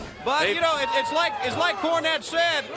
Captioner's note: crowd cheering